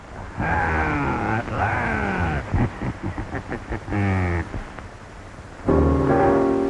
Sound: chuckling

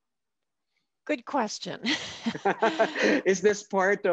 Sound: laughs

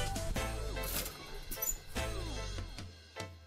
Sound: gate squeaking

